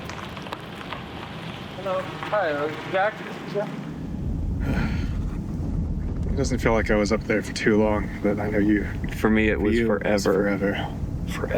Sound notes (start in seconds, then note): 4.5 sighs